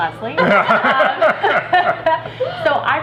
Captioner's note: laughing